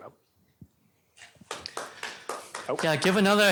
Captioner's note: applause